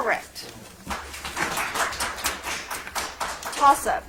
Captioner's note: audience applauds